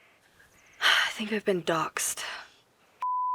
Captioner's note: sighs